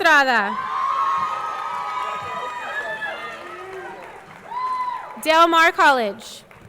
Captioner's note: audience cheering; audience clapping